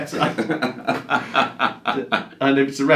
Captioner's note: laughing loudly